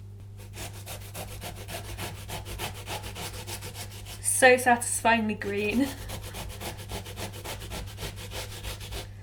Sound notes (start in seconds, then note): 2.8 grating sounds